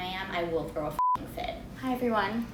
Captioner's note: beep